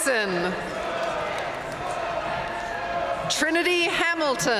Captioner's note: audience chanting